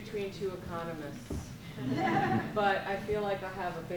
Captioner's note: audience laughs